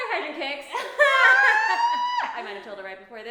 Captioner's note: laughing